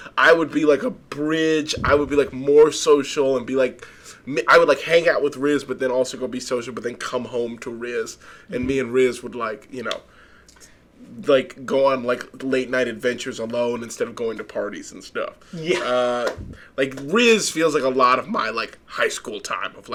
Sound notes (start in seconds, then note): 15.6 laughing